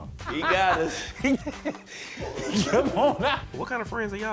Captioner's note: laughing